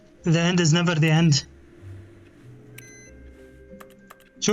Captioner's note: beeping